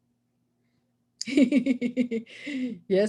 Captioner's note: laughs